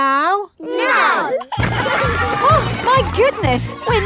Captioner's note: giggling